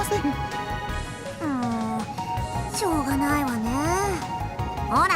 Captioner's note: sigh